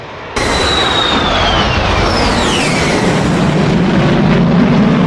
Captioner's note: plane engine roaring